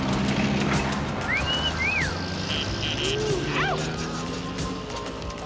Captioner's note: men catcalling